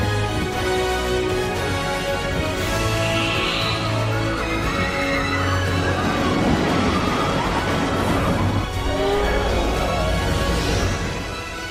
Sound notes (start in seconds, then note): 2.7 visitors screaming; 3.1 dragon roars